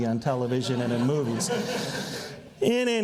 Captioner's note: audience laughs